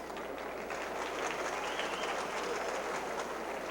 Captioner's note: crowd clapping